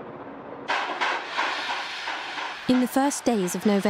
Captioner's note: train clacking